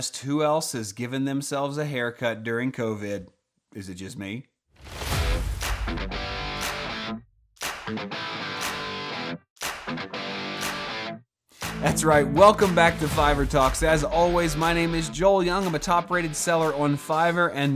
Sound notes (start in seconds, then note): 5.0 rhythmic clapping; 5.0 upbeat rock music